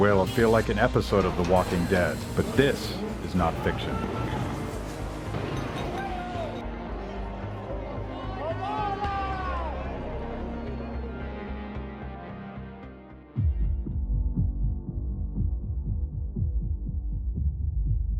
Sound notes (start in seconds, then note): 6.3 yelling; 13.9 dramatic music